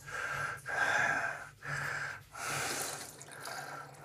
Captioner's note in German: Keuchen